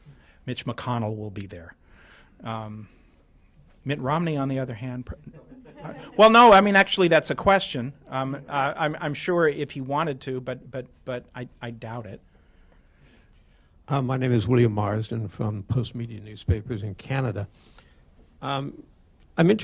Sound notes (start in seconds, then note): 5.2 laughter